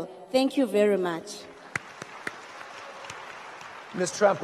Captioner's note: audience applauds